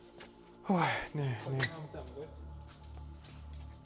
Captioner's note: sigh